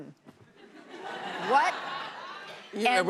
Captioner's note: laughter